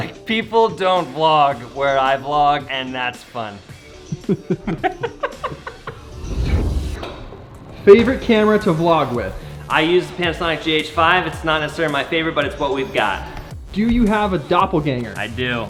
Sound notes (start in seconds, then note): 4.0 laughs